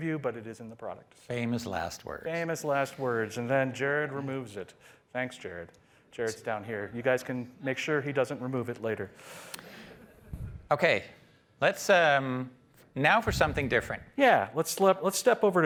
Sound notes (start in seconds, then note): 9.4 laughter